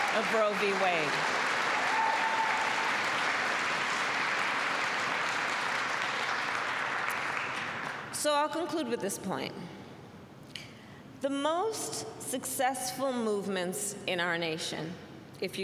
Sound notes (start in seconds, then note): 2.5 applause